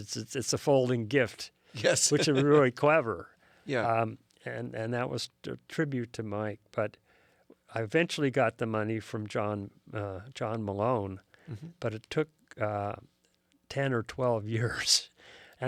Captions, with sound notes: it's a folding gift. - Yes! (laughs) - Which is really clever. - Yeah! - And that was a tribute to Mike. But I eventually got the money from John Malone, but it took 10 or 12 years.